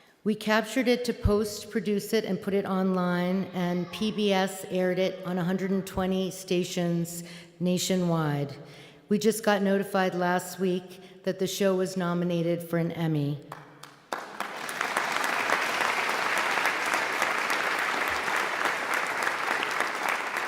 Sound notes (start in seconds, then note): 13.8 audience applauding